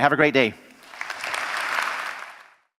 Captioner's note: applause